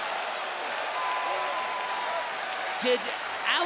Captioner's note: crowd cheers and applauds